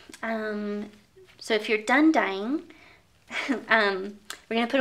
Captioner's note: chuckles